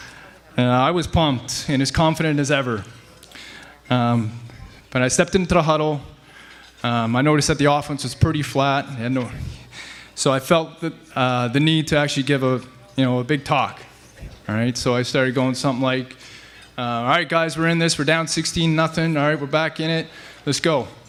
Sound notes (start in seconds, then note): none